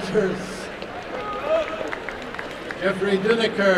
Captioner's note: applause and cheering